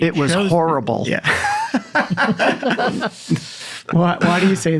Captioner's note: laughing